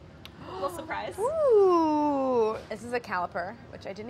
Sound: gasps

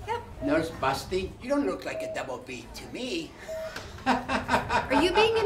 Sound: ha ha ha

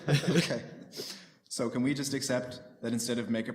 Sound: laughter

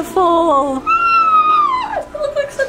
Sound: screams in joy

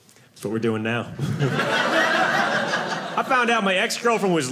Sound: audience laughing

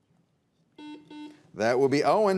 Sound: buzzer beeps

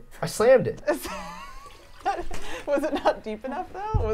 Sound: laughing

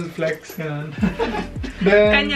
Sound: chuckling

